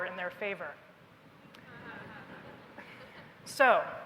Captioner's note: laughter